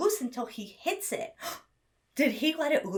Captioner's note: gasps